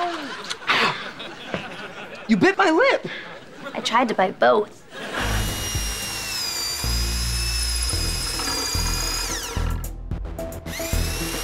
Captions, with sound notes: Ah! You bit my lip! I tried to bite both. [whirring]